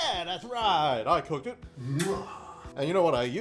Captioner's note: kissing